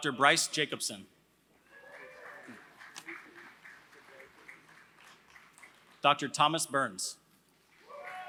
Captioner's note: applause; applause